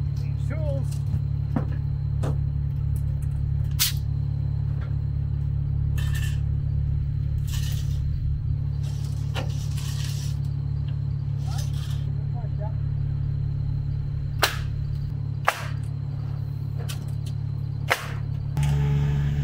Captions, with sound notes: Need the tools. (electric stapler gun shooting)